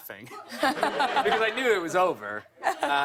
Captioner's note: laughter